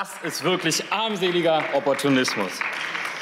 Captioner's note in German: Beifall